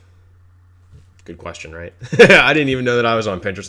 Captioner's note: laughs